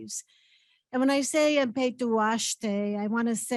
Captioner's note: speaks in indigenous language